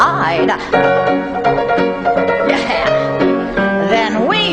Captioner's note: bright music; Velma laughs